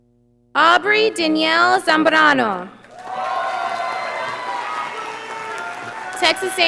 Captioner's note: audience applauding